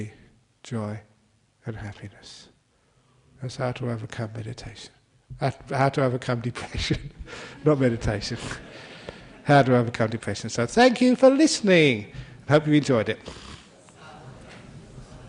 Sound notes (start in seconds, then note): 7.5 laughter